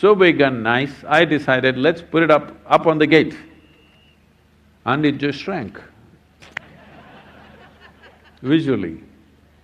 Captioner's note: laughter